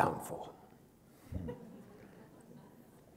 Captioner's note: laughter